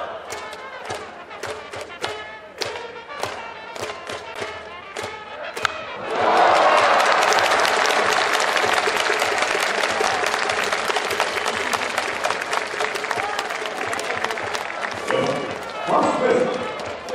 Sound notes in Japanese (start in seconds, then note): 5.4 歓声･拍手